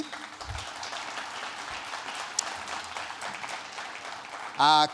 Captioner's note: audience applauding